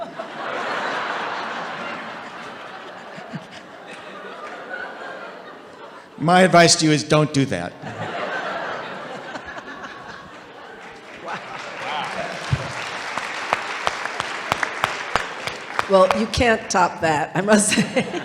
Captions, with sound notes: (audience laughing) My advice to you, is don't do that. - Wow. - Wow. (audience applauding) - Well you can't top that I must say.